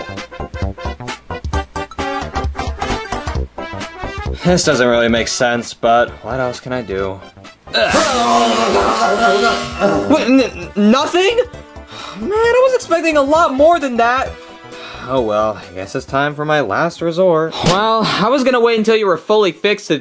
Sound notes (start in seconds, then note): 1.4 upbeat music continues; 7.7 Mario screaming; 7.7 Junior grunting